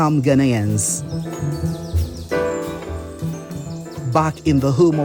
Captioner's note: birds chirping; classic jazz music